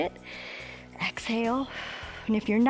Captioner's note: exhales